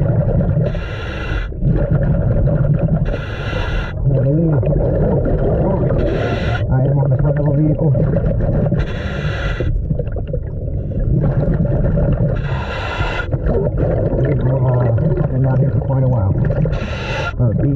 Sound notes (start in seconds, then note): 0.1 water bubbling; 0.6 mouthpiece hissing; 8.0 water bubbling; 8.8 mouthpiece hissing